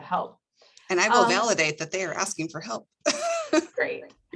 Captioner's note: laughs